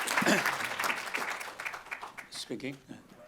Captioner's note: clears throat